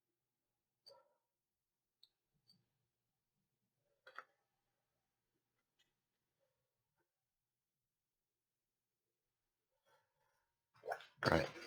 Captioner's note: silence